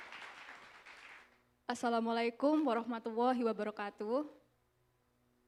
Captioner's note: speaking indonesian